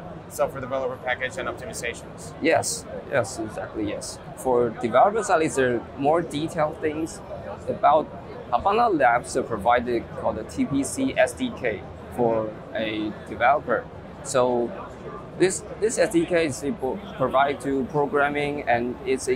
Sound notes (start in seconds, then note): 3.5 conferees chattering